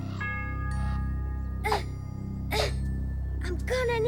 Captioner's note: grunts of effort